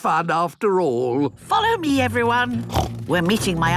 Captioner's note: snorts